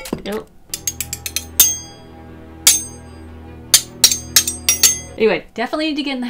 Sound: metal clanking together

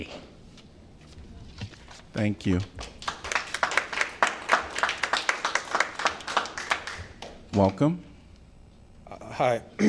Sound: applause

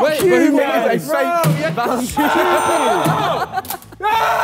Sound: men yell

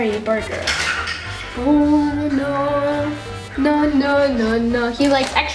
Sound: humming

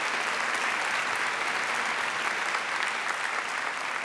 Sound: applause

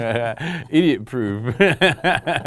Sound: laughing

